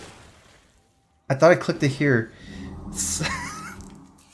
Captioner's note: laughs